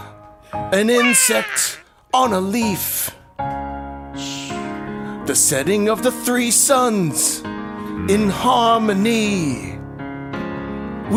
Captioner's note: bird squawk